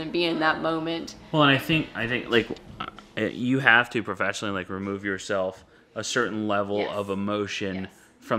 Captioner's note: none